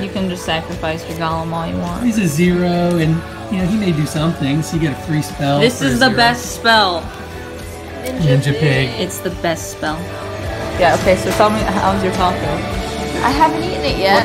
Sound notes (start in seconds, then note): 2.9 pip